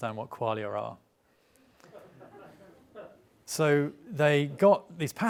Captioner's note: audience laughing